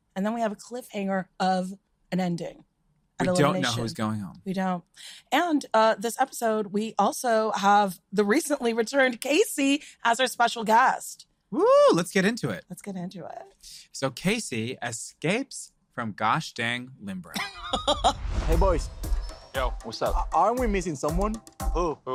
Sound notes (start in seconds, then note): 17.3 laughs